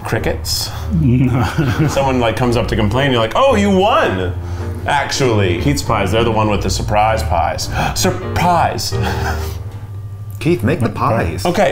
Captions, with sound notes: - Crickets? - (laughing) No. - Someone like comes up to complain, you're like, "Oh, you won, actually!" Keith's Pies, they're the ones with the surprise pies. (whimsical music) - (gasping) Surprise. - Keith, make the pies. - Okay.